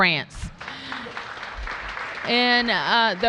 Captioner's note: applause